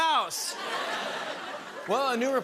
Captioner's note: laughter